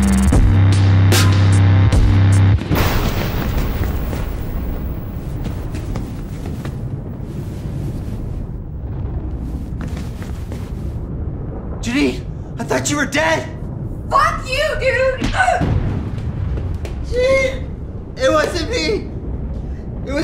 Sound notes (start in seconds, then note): 2.8 lighting cracks